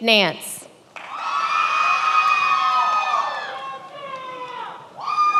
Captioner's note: many applauding